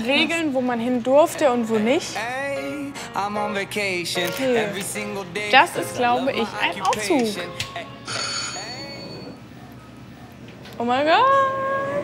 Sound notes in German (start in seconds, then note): 8.0 Schrille Glocke